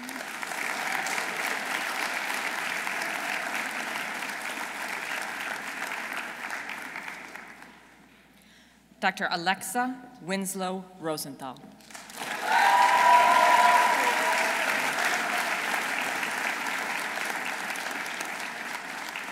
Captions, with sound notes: (audience applauding) Dr. Alexa Winslow Rosenthall. -(audience cheering) -(audience applauding)